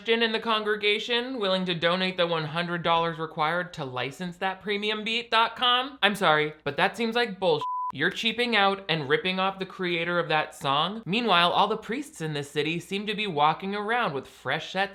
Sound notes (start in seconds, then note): 7.6 beep